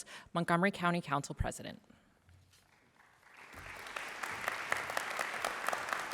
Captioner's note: applause